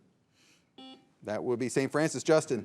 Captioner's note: signal beeps